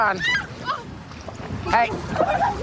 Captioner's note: screaming